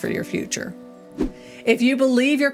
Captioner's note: air whooshing